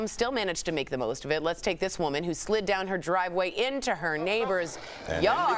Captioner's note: laughter